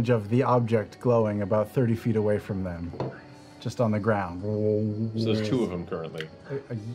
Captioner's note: dissonant humming